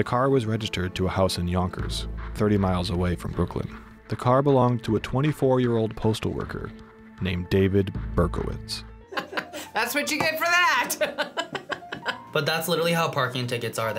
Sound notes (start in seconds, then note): 10.9 laughs